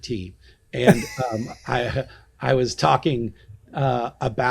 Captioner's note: laughing